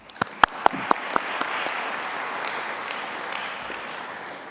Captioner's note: applause